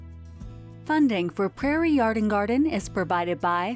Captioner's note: light upbeat music; voiceover